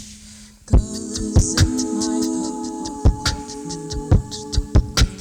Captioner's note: rhythmic beat boxing